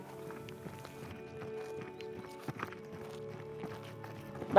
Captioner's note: footsteps